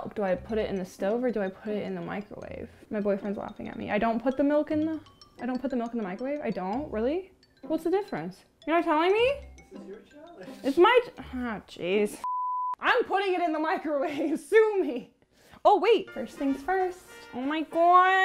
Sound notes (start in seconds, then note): 12.2 beep